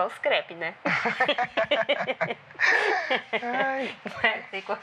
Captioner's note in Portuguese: risadas